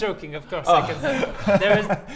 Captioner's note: sigh of relief